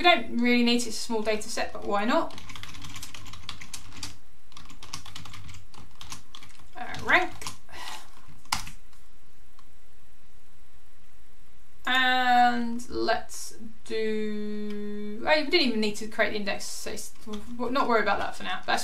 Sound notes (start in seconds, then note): 2.3 keyboard clicking; 8.4 keyboard clicking